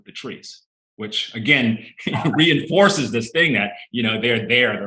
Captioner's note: chuckling